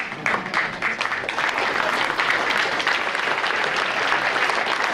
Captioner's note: audience applauding